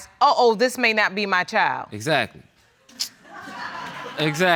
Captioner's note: laughter